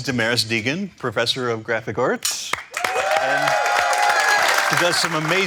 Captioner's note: crowd cheering